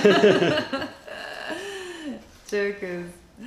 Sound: laughter

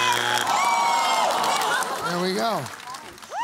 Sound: groaning

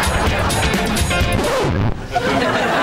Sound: record scratching

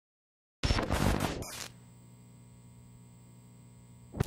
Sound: graphics buzzing

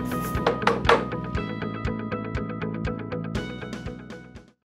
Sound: tapping

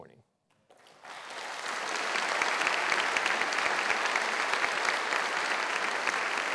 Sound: applause

